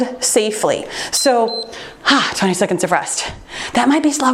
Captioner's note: timer beeps